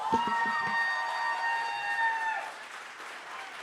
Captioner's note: cheering, applause